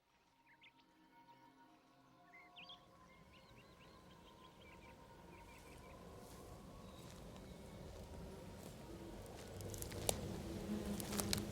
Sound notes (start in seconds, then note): 1.3 nature sounds; 5.5 footsteps